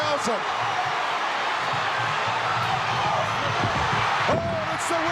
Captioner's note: audience cheering